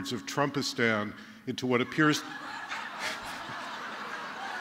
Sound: laughter

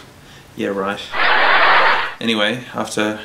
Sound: laughing

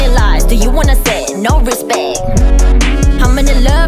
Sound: hmm hmm hmm

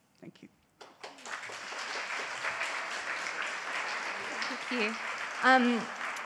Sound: audience applauds

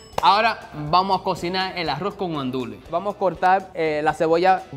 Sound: speaking in foreign language

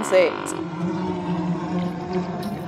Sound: flies sound effect

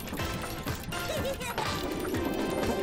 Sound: laughing

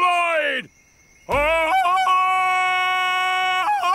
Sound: ululating

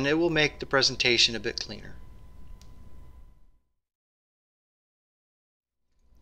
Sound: pause

